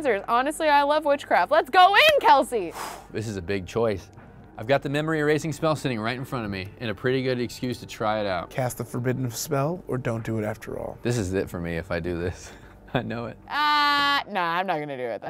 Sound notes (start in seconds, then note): 2.6 exhales; 12.5 chuckles